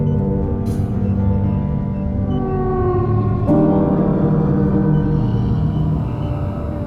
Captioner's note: Aerozoan gentle chirping